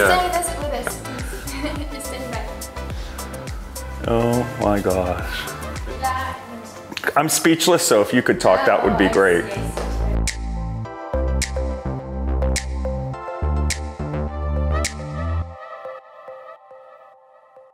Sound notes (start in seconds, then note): 9.6 woman mumbling; 10.4 gentle music